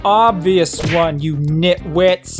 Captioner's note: smack!